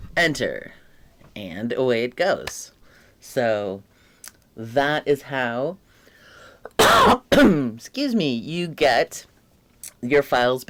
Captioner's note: cough